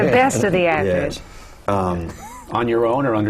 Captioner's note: laughter